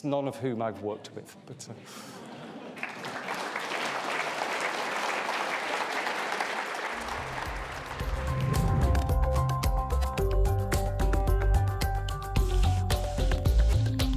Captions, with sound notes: none of whom I've worked with. (audience laughs) (audience clapping) (upbeat music)